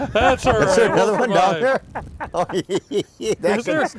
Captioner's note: laughter